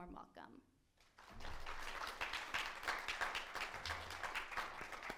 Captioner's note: audience applauding